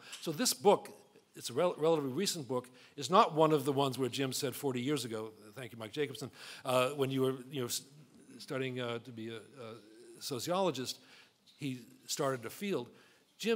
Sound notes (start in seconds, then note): none